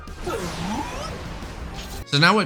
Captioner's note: honedge noises